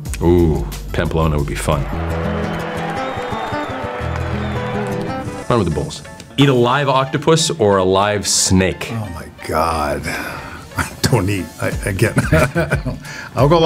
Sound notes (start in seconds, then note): 1.6 crowd cheering; 1.9 spanish guitar music; 12.1 laughs